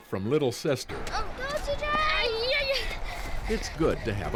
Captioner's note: grunting